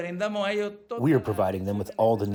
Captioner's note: through translator